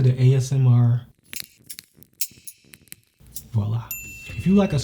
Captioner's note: scissors snapping